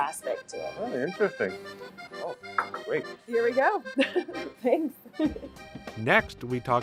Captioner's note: shared laughter